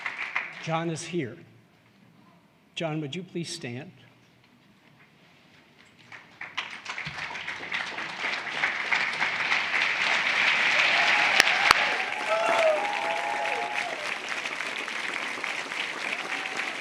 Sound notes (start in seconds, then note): 7.7 cheers, applause